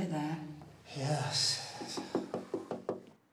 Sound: knocking

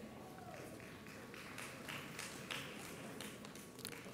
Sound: audience applauds

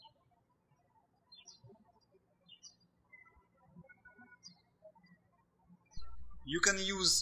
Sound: birds chirping

